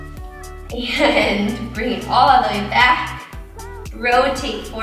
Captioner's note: laughs